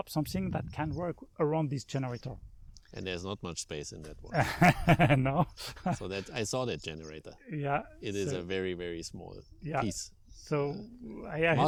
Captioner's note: laughing